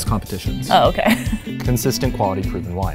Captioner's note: laughs